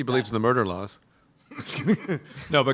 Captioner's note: laughter